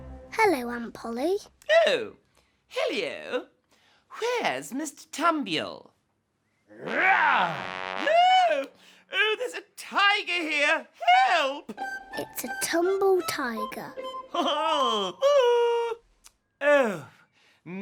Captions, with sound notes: hello aunt polly oh hello where's mr tambiel [tiger noise] oh there's a tiger here help it's a tumble tiger oh